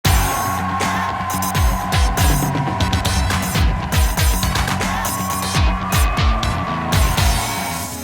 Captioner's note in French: bruit de foule en délire